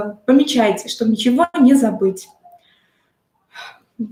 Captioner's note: exhale